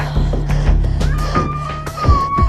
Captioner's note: baby crying